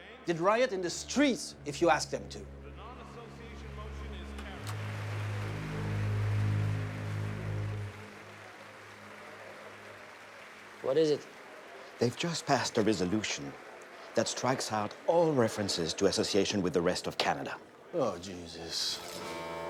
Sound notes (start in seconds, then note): 5.5 audience applauds; 5.5 tense music